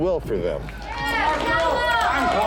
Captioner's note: gang cheering